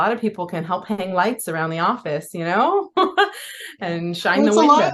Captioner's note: laughs